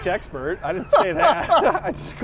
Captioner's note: laughs